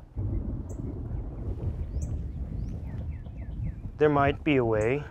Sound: thunder roars

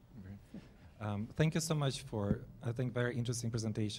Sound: voiceover

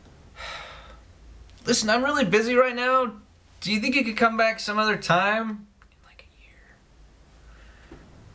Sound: sigh; whispers

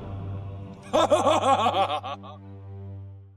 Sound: evil laughter

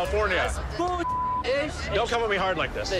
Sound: beep

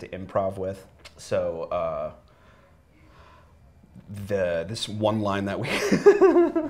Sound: giggles

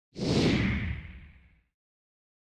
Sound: swoosh

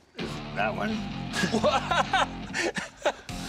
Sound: laughs

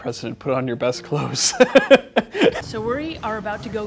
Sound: laughs

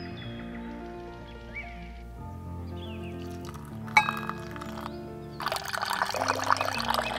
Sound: birds singing; water pours into tea cup; milk pours into tea cup

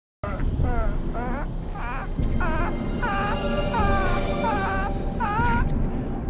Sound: ominous but very odd laughter

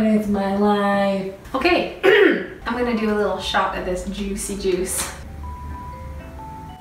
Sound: clears throat

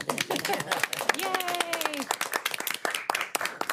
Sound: applause

